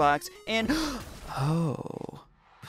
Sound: gasp

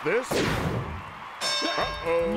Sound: bell dings

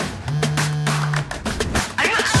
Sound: phone vibrating

